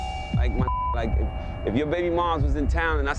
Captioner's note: beep